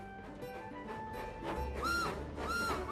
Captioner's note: chug-Chug-Chug; toot-Toot-Toot